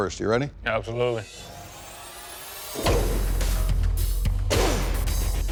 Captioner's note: blade impact sounds